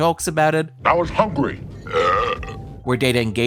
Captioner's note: burps